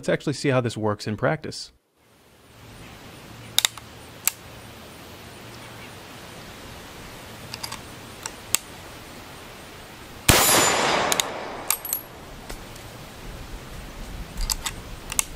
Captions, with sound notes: Let's actually see how this works in practice. (gun cocking) (gun bangs) (gun cocking)